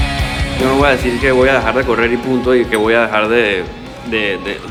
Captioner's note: speaking Spanish